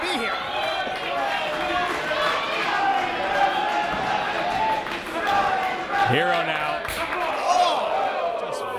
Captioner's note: applause